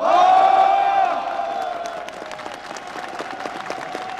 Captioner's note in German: Allgemeiner Jubel